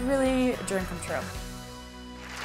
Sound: applause

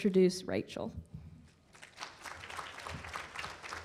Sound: applause

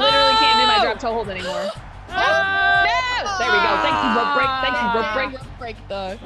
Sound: applause

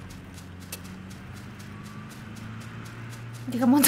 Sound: the sound of a car passing

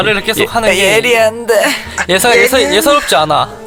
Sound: he's imitating Minseo

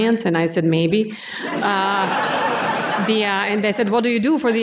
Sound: laughter

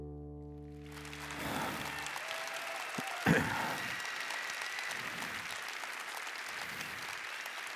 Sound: applause

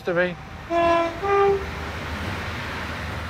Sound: locomotive whistle

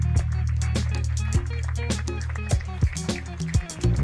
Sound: applause

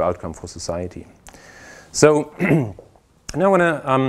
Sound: cough

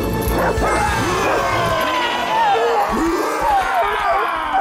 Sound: growling and barking; yelping

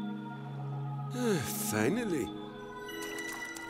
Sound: sighing

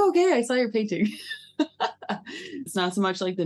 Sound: laughing

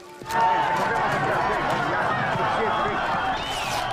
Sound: yelling

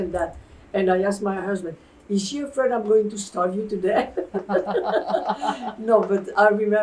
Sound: laughter

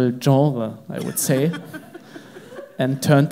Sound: crowd laughs

